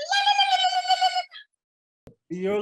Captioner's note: exclaiming